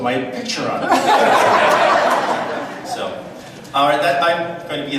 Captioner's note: audience laughs